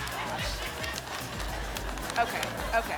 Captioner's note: laughter